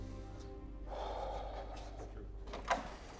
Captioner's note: door clacks open